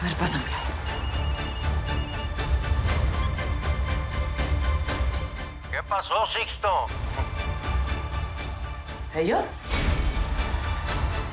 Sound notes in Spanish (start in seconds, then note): 3.2 Suena el celular